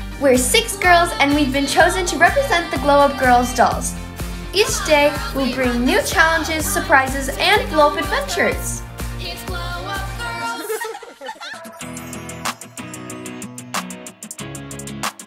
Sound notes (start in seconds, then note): 10.3 girls laughing; 12.4 lively music